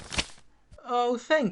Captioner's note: papers shuffling